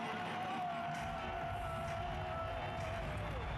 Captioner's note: shouting